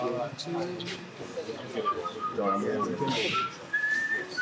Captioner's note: whistling